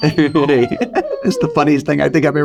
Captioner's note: chuckling